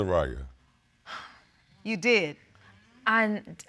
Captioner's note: exhales